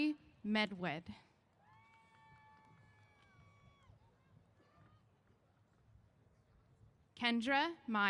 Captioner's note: cheers